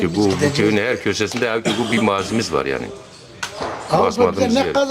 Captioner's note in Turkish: boğazını temizler